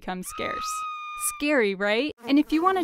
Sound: scream

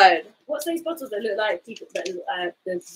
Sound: speaks quietly

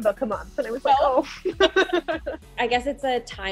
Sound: laughing

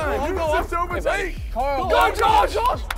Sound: indistinct chattering

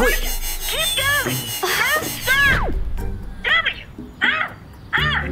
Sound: computer Voice

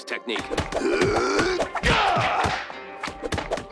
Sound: grunting

